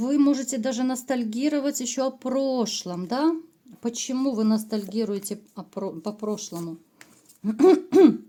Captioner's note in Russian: откашливается